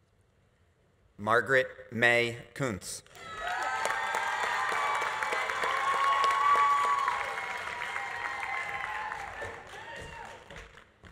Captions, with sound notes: Margaret Mae Coontz. (audience applauding) (audience cheering)